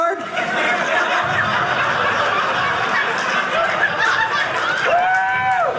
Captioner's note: audience laughing